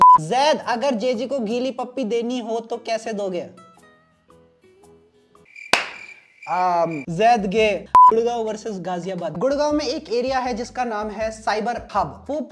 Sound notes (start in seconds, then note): 5.7 clap